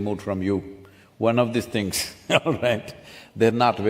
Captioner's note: laughs